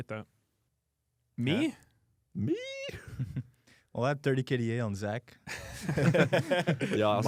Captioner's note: laughs